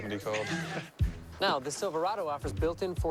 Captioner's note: laughter